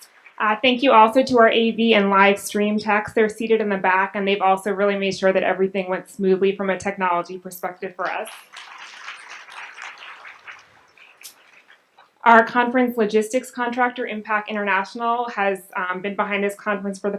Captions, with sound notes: Thank you also to our AV and live stream team, they are seated in the back and they also really made sure that everything went smoothly from a technology perspective for us. (audience applauds) Our conference logistics contractor Impact International has been behind us this conference for